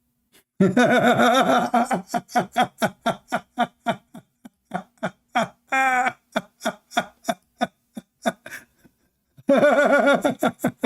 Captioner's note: Ketawa ter